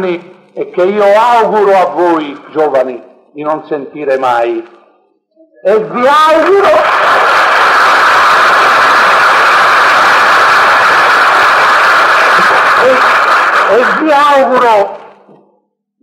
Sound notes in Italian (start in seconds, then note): 6.1 applausi del pubblico, n.d.t